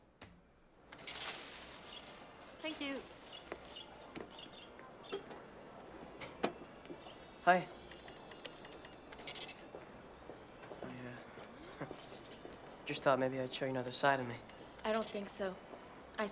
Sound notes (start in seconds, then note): 4.8 birds chirping